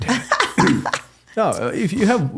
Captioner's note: laughing